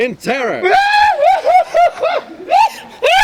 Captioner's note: screaming